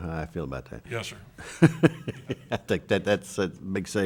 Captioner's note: laughs